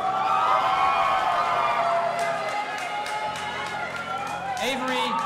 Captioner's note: audience applauding and cheering